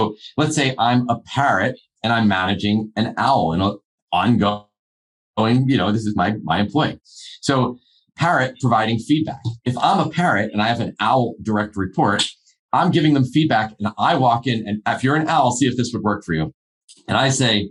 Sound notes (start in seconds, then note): none